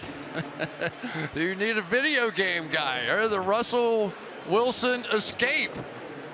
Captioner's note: laughs